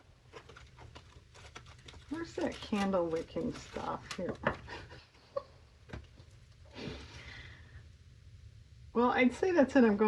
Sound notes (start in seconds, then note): 7.7 laughs